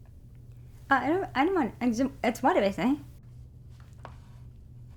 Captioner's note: stuttering